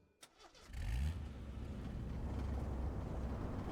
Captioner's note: vehicle Starting